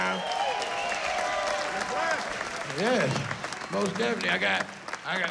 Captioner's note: cheering